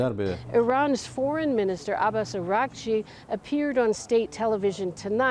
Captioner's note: speaking Alternate Language